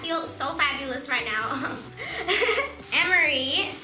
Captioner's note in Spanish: risas